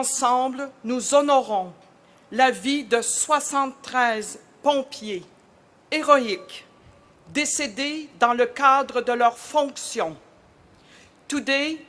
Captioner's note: speaking French